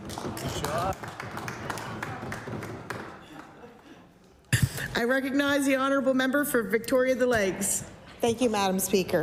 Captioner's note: applause